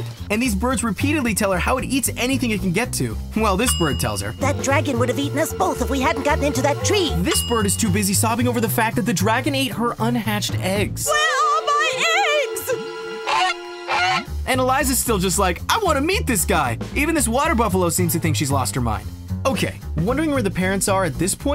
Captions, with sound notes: And these birds repeatedly tell her how it eats anything it can get to. Well this bird tells her. That dragon would have eaten us both if we hadn't gotten into that tree! This bird is too busy sobbing over the fact that the dragon ate her un-hatched eggs... Where are my eggs? [squawking] And Eliza's still just like I wanna meet this guy! Even this water buffalo seems to think she's lost her mind. OK, wondering where the parents are at this point?